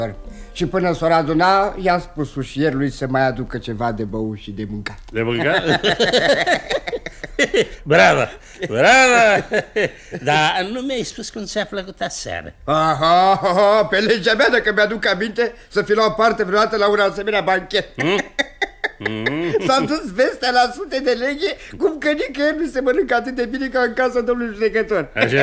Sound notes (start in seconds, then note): 5.2 both laugh